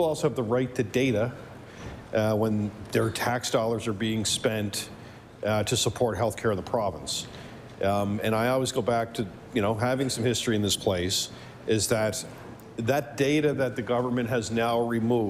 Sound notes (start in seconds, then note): none